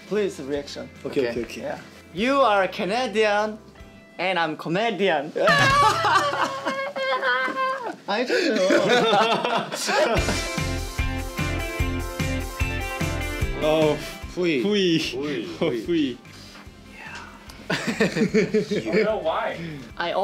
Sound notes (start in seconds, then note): 5.5 fake laughter; 17.6 laughs